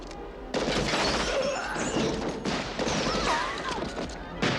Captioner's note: gunfire